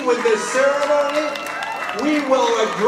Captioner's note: audience applauding